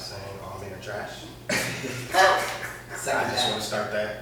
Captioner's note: laughter